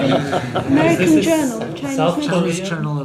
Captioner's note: laughs